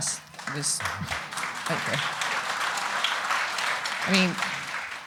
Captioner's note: audience applauding